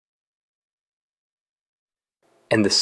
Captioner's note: pause